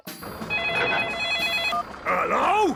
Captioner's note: phone ringing; phone beeping